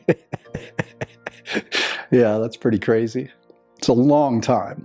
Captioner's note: laughs